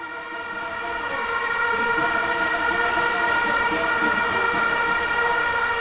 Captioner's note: horns blowing